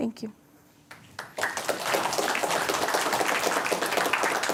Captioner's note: applause